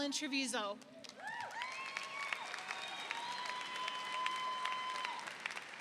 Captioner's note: audience applauding